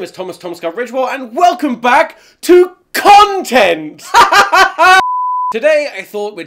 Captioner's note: laughs